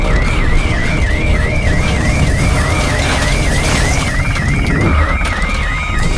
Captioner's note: rescue helicopter approaching